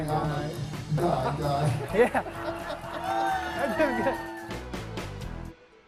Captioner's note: laughter